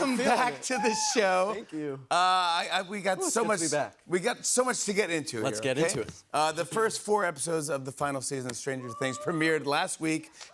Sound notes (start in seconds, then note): none